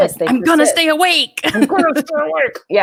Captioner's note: laughs